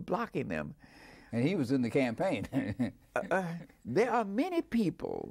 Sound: laughing

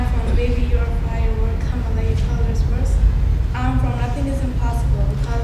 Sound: talking

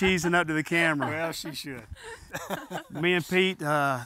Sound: laughs

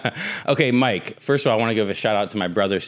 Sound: laughs

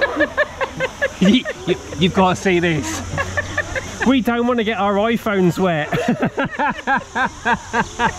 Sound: laughter

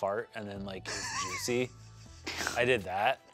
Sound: laughs

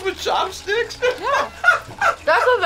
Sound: laughs

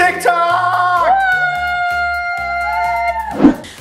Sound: cheers

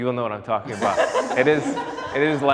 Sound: people laughing

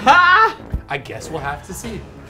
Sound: laughs

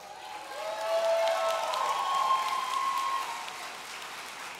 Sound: audience cheering

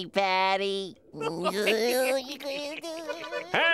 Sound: laughing

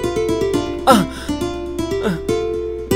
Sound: gasps

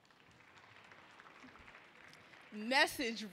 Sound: audience clapping

